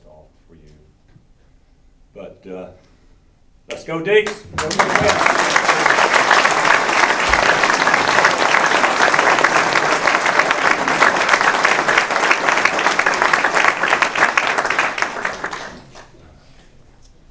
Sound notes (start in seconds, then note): 8.9 applause; 15.5 chuckles